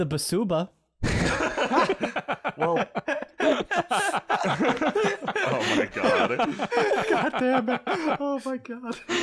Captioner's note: DM and players laughing